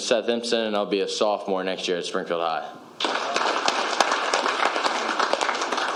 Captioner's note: applause